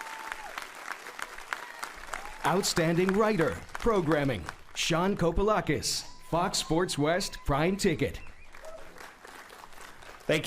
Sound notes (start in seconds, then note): 7.9 applauding